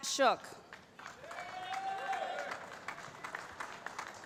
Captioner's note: applause